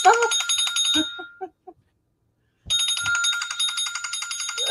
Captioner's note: bell rings